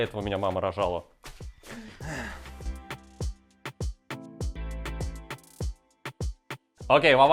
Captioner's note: sigh